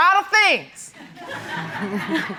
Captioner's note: audience laughs